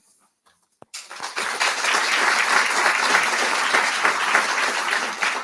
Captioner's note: audience applauding